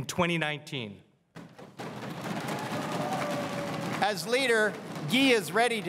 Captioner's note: crowd cheering and applauding